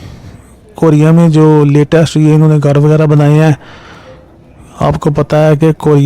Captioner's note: nasal sound